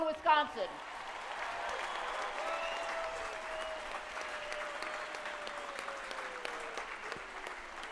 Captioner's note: applause